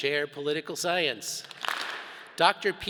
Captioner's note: all clap